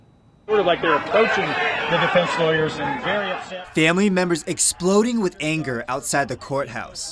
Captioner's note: family members screaming at defense attorney